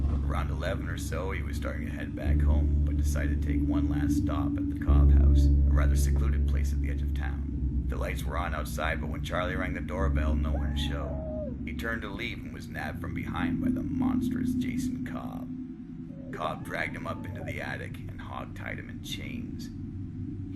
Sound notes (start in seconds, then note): 16.0 distant yelling